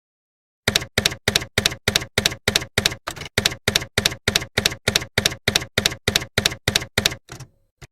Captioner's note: typewriter keys clacking